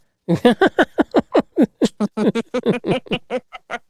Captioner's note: laughs